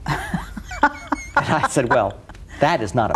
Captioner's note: laughs